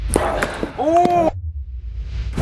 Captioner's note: ball clacking